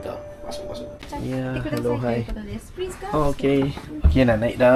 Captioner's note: speaking Japanese